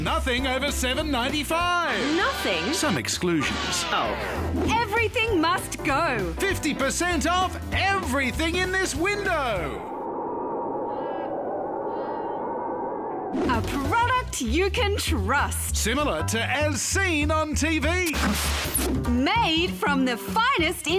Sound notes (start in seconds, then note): 9.6 wind blows